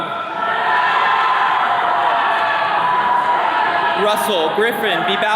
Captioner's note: attendees cheering